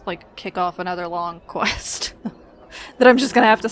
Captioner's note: laughs